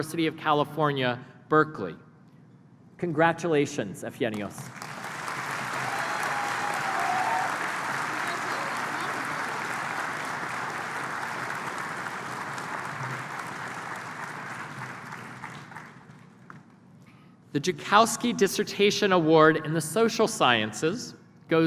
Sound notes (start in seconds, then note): 4.4 applause